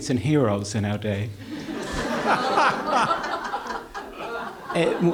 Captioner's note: laughter